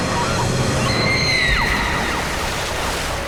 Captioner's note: screaming